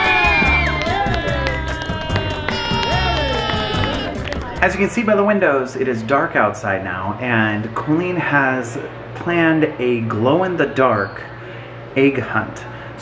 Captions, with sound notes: (cheering) - As you can see by the windows, it is dark outside now. And Colleen has planned a glow in the dark egg hunt.